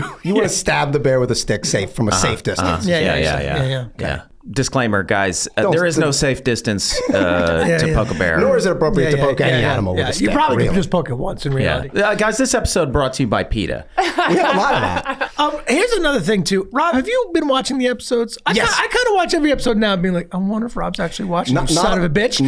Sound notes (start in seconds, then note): 14.0 laughs